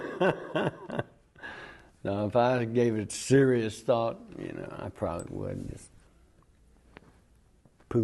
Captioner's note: laughter